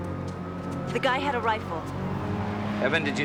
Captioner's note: distant siren blares